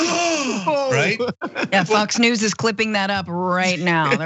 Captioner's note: laugh